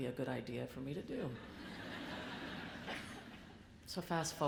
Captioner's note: audience laughs